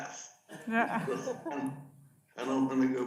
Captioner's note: audience laughs